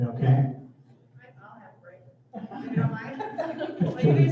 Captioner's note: laughter